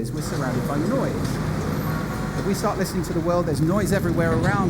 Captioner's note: traffic noise